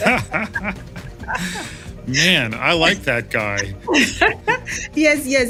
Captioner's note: laugh; laugh